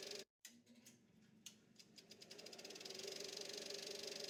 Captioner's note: film rolling